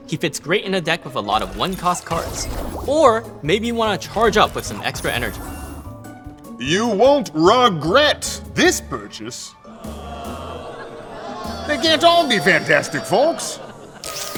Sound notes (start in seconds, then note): 9.7 audience jeering; 14.2 robot whirring; 14.2 sparks crackling